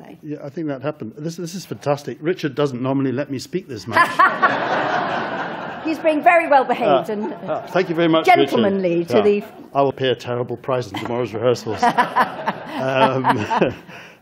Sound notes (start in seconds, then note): 3.9 laughter